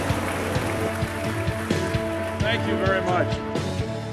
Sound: applauds and cheers

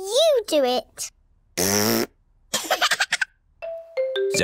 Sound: laughs; blows raspberry

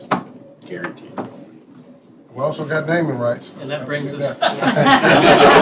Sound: laughter

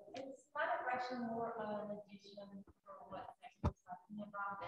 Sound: speaks faintly

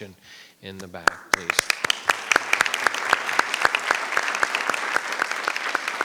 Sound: audience applauding

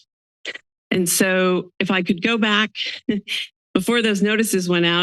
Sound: laughs

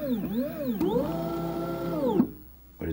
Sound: machine revving

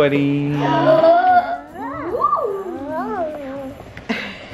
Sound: mom gasping

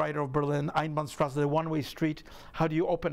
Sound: speaking in a foreign language

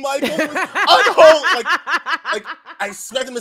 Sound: laughs

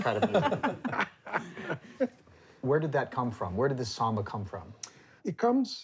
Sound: laughter

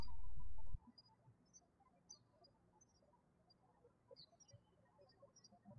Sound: birds chirping

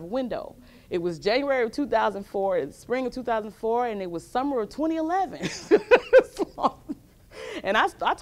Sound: laughs

